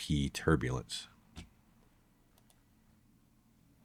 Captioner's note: keyboard clicking